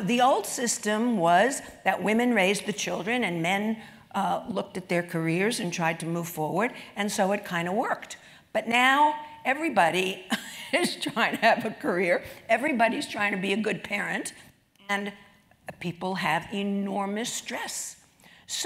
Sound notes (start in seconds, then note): 9.9 laugh